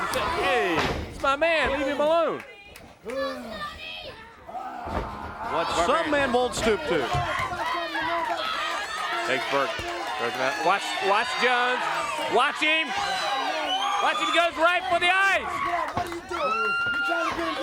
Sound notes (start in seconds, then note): 12.9 crowd cheering